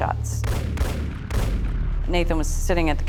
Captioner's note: gun firing